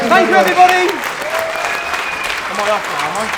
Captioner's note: applause